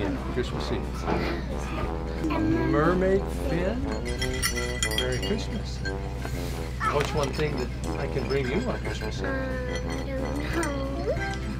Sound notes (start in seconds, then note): 3.8 bell jingles